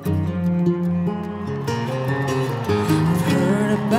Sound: melancholy cello melody; people cheering

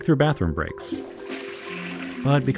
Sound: toilet flushing

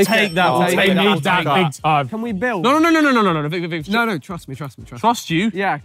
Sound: chattering

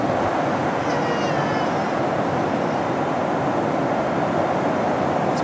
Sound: loud crying

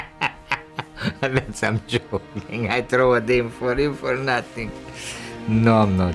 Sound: laughs

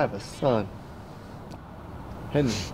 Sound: distant sirens blaring

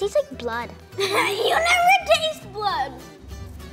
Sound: laughs

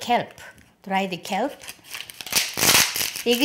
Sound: crackling

